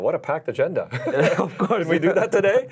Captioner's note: laughing